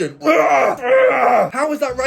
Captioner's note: groaning